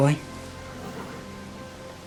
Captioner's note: horse neighs